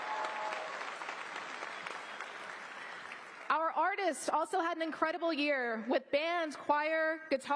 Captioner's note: applause